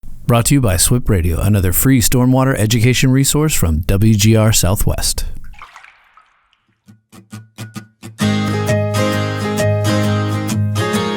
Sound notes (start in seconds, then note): 3.8 water trickling; 6.8 upbeat guitar music